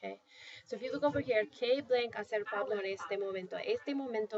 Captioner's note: speaking spanish